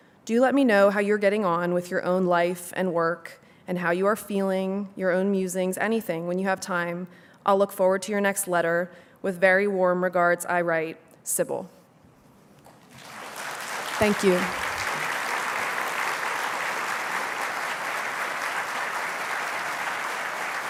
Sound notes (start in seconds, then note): 12.3 applause